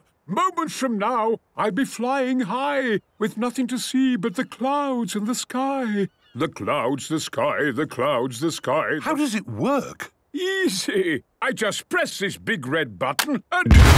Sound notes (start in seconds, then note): 6.4 sing-sing voice